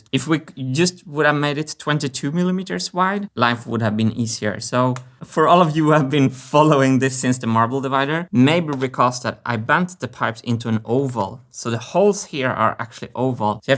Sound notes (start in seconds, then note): none